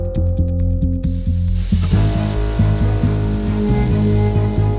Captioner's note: gas hissing